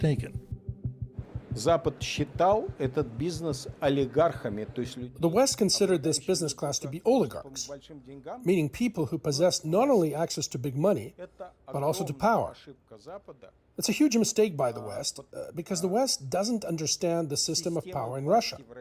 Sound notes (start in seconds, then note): 3.8 speaking Alternate Language